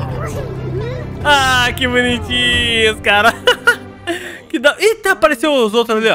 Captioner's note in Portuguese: risos